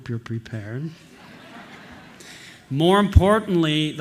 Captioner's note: laughter